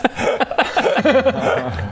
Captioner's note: honest laughter